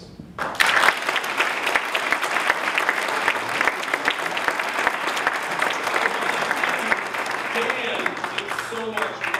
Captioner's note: applause